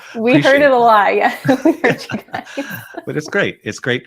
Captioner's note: chuckles